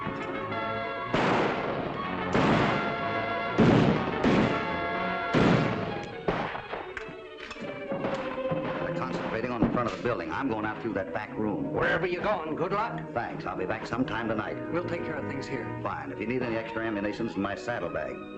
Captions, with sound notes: [ FIRING ] They're on the front of the building. I'm going out through that back room. Good luck. Thanks, I'll be back sometime tonight. We'll take care of things here. If you need any extra ammunitions, in my saddle bag.